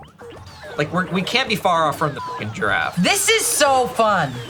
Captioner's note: beep